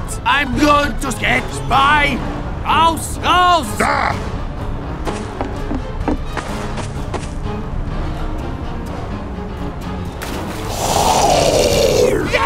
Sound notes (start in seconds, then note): 5.2 fast footsteps; 10.6 zombie growl